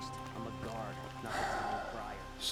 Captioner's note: sigh